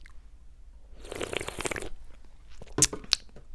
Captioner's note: sip